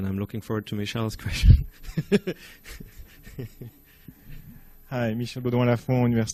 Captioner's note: laughs